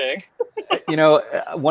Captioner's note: laughing